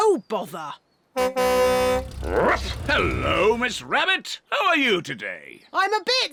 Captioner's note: honks horn